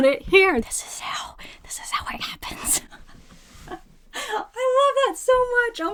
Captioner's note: laughs